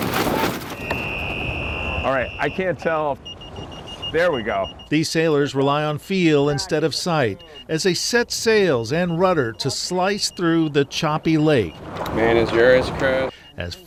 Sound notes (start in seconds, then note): 0.7 whistle blowing; 3.6 buoy beeping